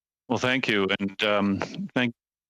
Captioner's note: speaking French